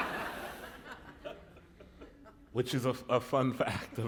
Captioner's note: laughter